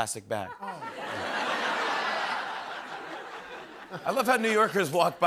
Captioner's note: laughter